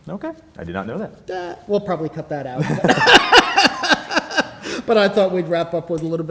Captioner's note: laughs